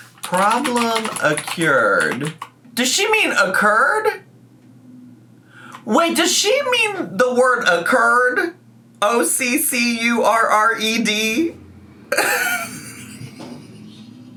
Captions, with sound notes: "Problem accured" Does she mean occurred? Wait, does she mean the word occurred? O-C-C-U-R-R-E-D? (laughs)